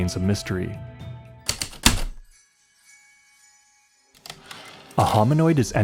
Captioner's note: heavy typewriter keystrokes, light chimes, return slide